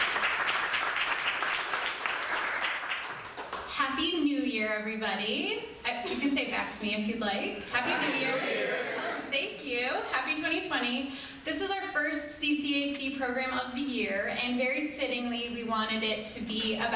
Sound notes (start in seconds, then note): 0.0 crowd applauding; 7.6 crowd